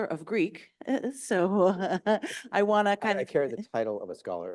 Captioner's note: chuckles